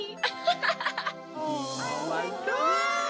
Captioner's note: snickers